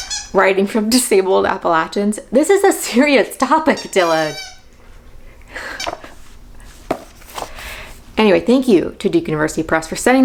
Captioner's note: squeak toy noises